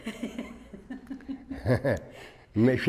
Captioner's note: both laugh